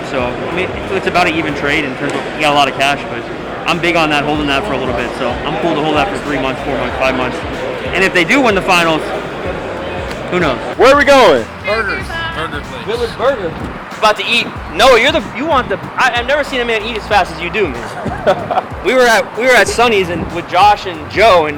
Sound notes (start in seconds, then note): 17.7 laughter